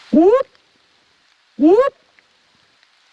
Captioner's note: whooping